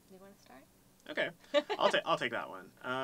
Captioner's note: laugh